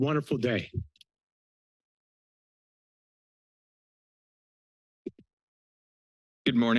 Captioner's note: silence